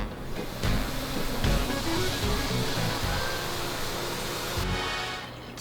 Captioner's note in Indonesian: suara air